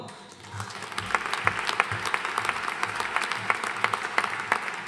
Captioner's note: audience applauding